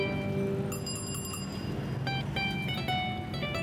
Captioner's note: bell dinging